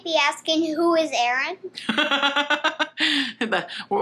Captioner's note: laughs